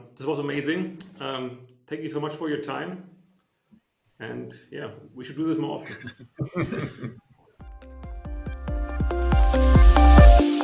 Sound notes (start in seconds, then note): 5.8 laughs; 7.7 soft upbeat music